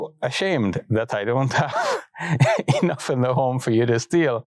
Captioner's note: laughs